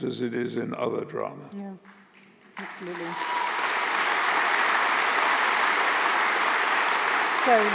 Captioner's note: applause